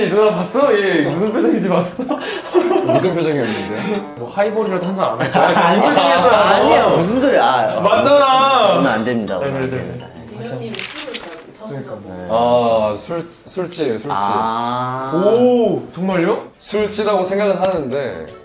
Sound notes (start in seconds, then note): 1.6 laughing